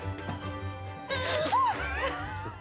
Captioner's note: Cara cries; noisemaker blow; both laugh